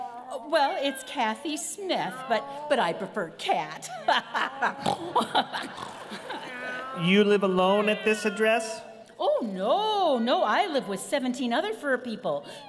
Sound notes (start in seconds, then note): 3.8 laughs, snorts